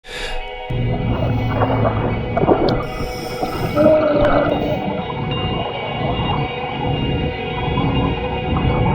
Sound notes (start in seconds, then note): 0.0 fast breath; 0.1 bubbles gurgle; 3.9 voice gurgles; 6.1 gentle music